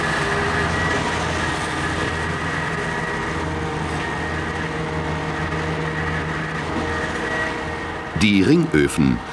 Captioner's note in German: Arbeitsgeräusche